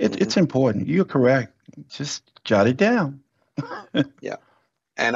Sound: laughs

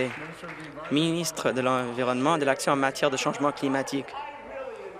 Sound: applause

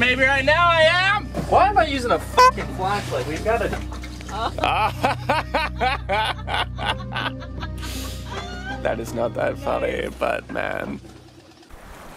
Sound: turns lights on, laughter

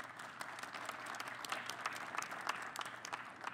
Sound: applause

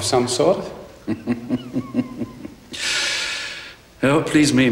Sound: laughs

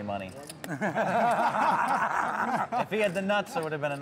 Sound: laughter

